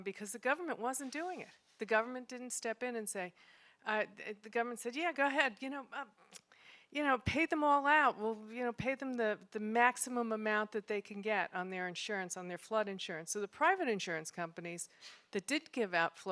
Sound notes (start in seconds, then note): none